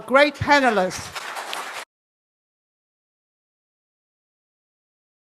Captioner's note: applause